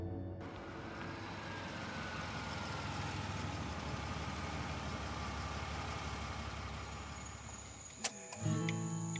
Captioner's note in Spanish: sonido del motor del auto